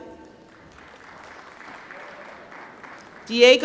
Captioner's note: applause